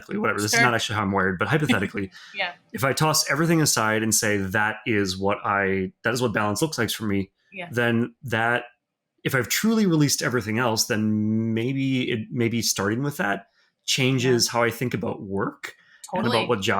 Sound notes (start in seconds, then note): 1.5 chuckling